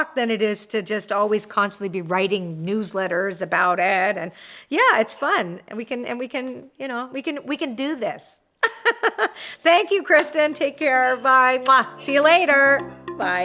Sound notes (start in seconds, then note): 8.5 laughs